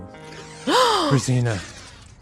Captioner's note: Razina gasps